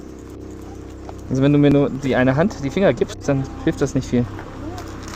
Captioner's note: speaking German